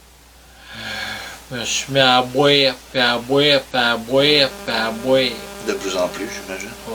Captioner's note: disc skips